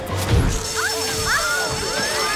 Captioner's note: crowd screams; fire alarm sounds